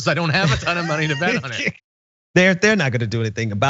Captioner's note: laugh